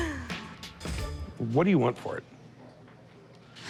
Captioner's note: laughs